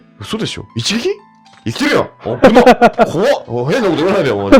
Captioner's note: laughs